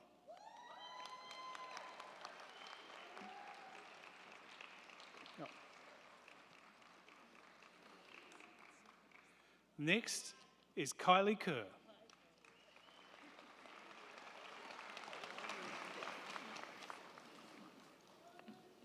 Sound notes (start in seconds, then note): 0.2 crowd cheering; 0.3 crowd clapping; 11.9 crowd clapping; 12.5 crowd cheering